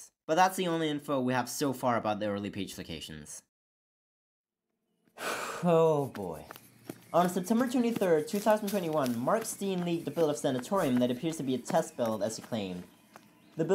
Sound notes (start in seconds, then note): 5.2 sigh